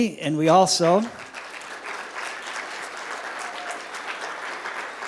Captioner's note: applause